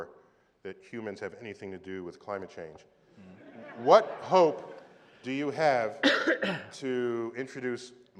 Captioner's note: cough